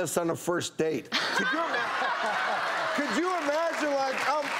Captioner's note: laughing